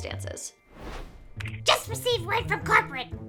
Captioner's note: air whooshing